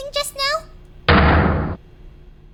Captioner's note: ominous thrum